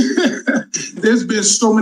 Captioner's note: chuckling